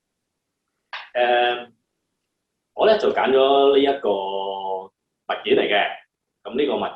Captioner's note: Cantonese